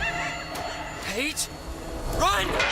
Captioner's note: crying in fear